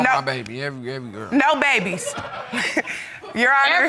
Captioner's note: laughs; audience laughing